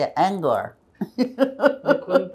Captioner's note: laughing